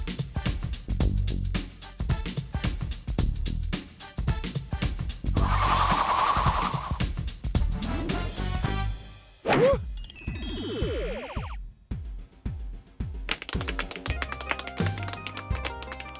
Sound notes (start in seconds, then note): 5.4 whirring; 10.8 electronic music